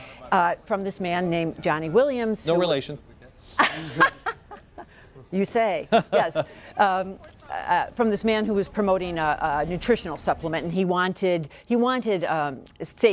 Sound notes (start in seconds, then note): 3.6 laughing